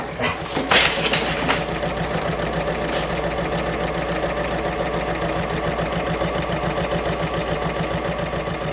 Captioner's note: sewing Machine Sounds